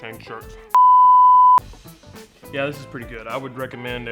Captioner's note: screen beeps